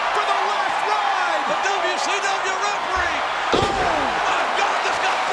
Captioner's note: body thudding